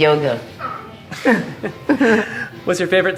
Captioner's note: laughing